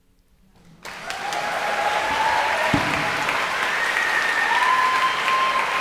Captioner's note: audience cheering and applauding